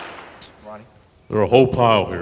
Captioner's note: audience applause